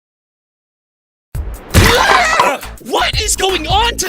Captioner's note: blocks smack